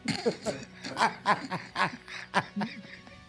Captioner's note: chuckling